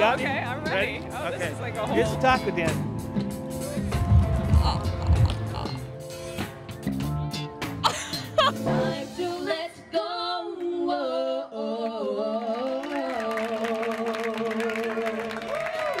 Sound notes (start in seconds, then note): 7.8 laughs; 12.4 applause